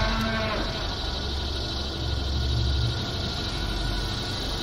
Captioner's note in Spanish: Los mugidos se acercan